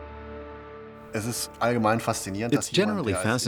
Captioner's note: speaking in German